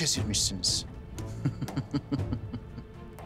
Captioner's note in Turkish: Gülme sesi